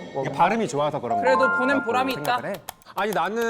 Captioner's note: satisfied sound effect